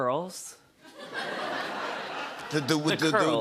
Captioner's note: laughter